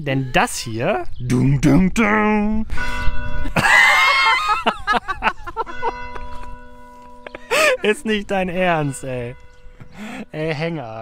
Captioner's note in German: kirchenglocke bimmelt dazwischen